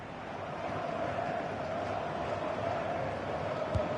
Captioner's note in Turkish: coşkulu tezahürat